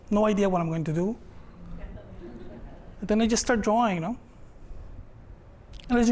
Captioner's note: laughter